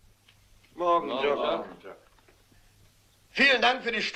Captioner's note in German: Gemurmel